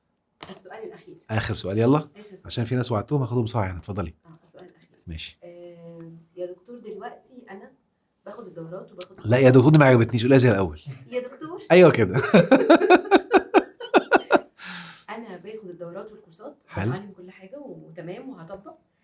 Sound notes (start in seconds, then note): 12.1 laughs!